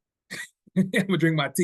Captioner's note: laughing